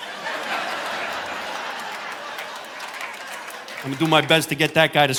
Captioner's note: audience laughing